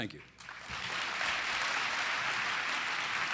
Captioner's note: applause